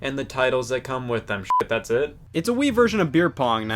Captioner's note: beep